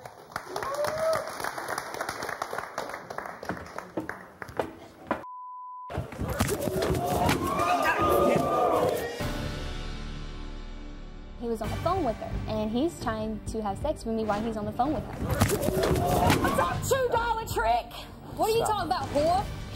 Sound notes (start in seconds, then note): 0.0 audience applauding; 5.9 women scuffling; 6.7 audience jeering; 9.2 dramatic music; 15.3 women scuffling